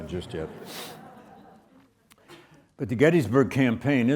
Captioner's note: audience applauds